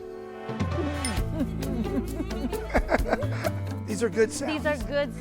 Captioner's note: giggling; laughing